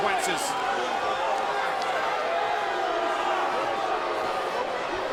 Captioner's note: crowd boos